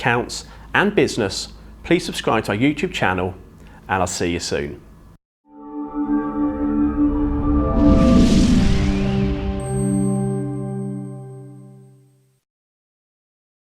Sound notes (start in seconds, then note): 5.5 gentle music; 6.0 graphics whooshing